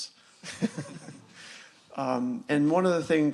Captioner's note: laughter